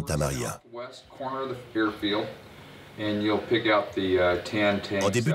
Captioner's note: communicating over the radio